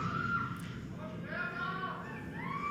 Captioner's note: speaks in foreign language